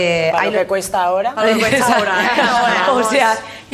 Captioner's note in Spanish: todos ríen